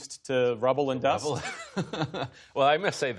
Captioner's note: laughter